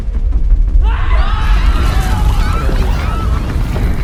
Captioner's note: villagers scream & scramble